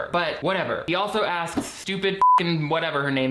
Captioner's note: beeps